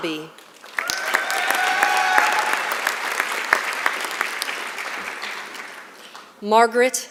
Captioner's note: applause